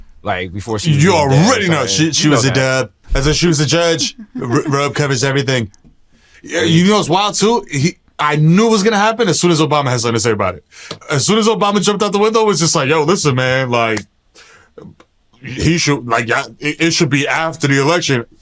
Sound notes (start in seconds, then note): 1.9 in donald trump voice